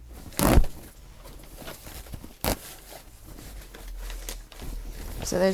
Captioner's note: stitches ripping